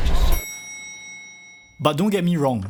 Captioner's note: elevator ding